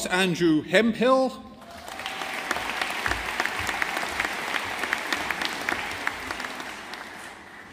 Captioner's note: audience applauding